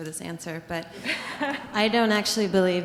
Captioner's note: audience chuckles